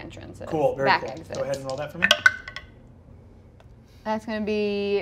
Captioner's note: dice clatter